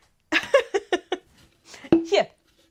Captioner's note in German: Gelächter